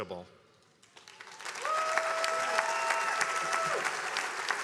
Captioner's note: attendees applauding